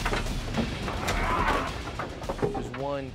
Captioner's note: yells